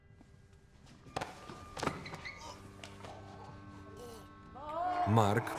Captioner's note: choking